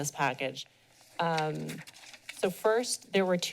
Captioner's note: papers rustling